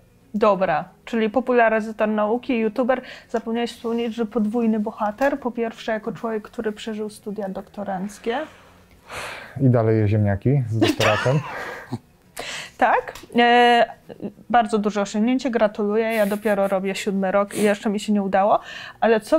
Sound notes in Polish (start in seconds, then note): 10.8 śmiech